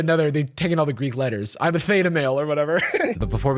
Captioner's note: chuckles